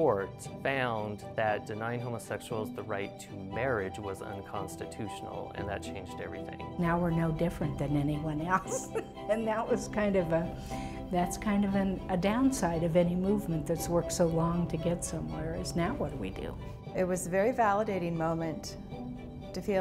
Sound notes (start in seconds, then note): 8.5 chuckling